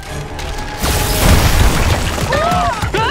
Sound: screaming

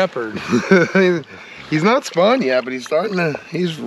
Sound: chuckling

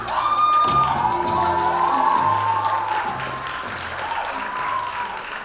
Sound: audience applauding

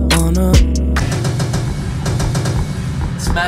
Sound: gunshots popping

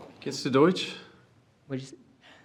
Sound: speaking foreign language

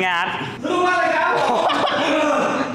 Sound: laugh

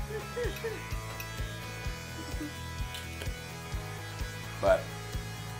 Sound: laughter

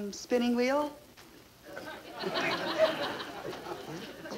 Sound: audience laughing

